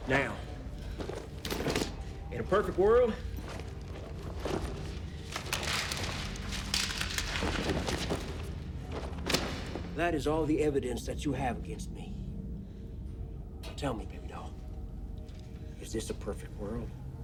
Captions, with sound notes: Now, in a perfect world... (paper rustling) that is all the evidence that you have against me. Tell me, baby doll, is this a perfect world?